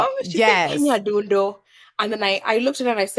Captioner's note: non-english